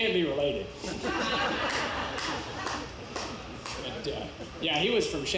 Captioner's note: audience laughs